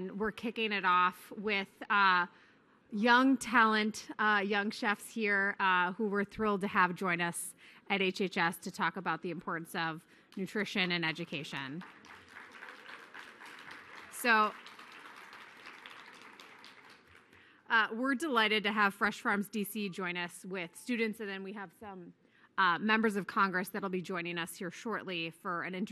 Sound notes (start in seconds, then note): 13.4 applause